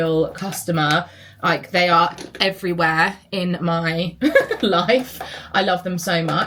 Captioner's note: laughs